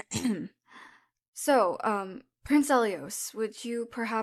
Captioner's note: clears throat